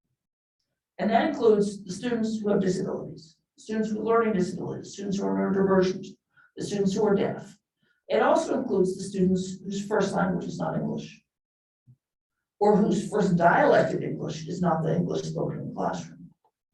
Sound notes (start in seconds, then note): none